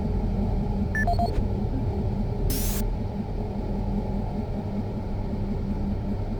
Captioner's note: beeping